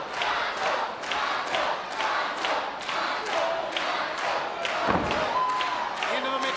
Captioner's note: audience continues chanting